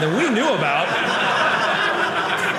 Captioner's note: audience laughing